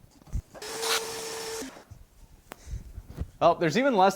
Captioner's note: vacuuming whirling